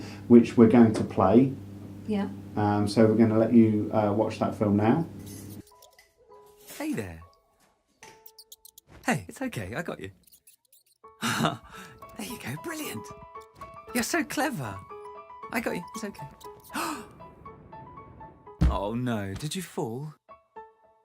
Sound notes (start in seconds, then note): 6.9 voiceover; 11.2 laughs; 16.7 inhales sharply